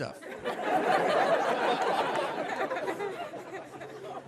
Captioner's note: audience laughs